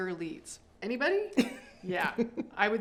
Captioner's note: laughs